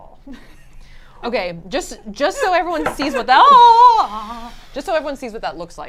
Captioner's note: laughs; screams